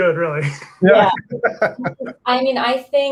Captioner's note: laughs